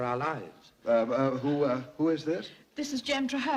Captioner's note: stammering